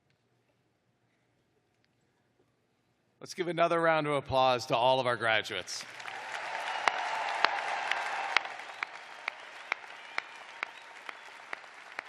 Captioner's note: cheers and applause